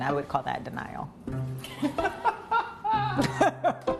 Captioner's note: laughter